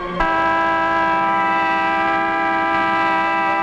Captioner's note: horn honking